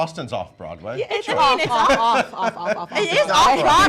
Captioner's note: laughs